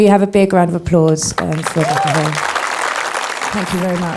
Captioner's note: applauding